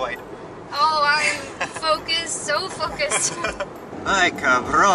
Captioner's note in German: Gelächter